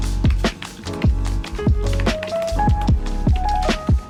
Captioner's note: keys click